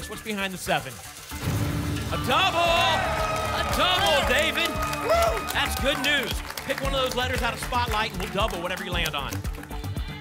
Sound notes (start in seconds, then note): 1.4 booms